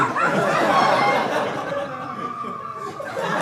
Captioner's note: audience laughing